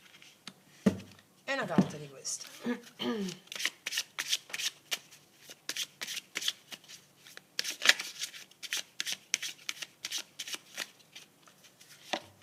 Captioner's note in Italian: schiarire la voce